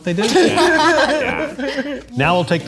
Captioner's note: group laughs